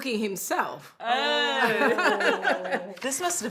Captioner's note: laughing